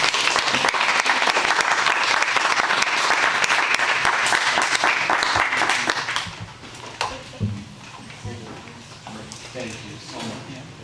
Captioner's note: applause